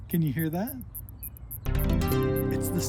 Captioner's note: bug chirping